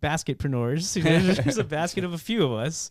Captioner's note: laughing